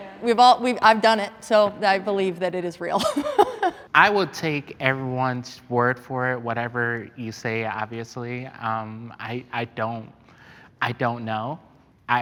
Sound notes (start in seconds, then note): 2.9 laughing